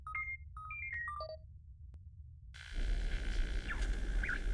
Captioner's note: none